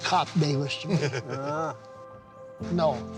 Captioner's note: laughter